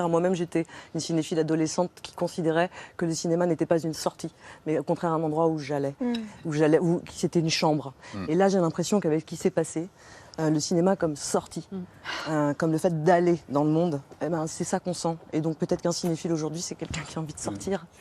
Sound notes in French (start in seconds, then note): none